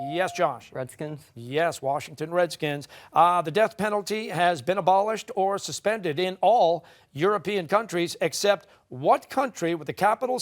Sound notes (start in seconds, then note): none